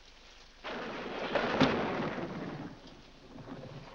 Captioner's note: loud thunder